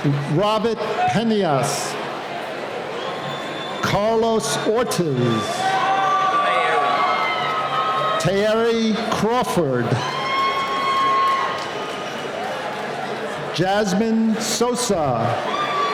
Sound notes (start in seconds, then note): 6.3 cheering; 11.0 cheering; 15.7 cheering